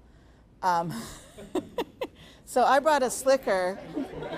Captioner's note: laughing; audience laughing